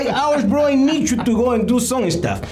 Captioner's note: laughing